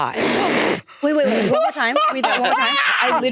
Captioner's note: participants laughing